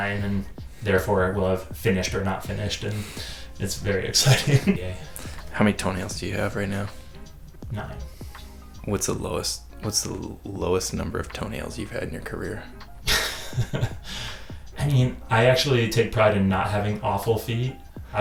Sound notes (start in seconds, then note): 13.0 chuckles